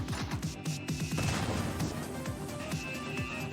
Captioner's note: explosion